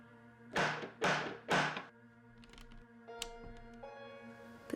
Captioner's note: door knocking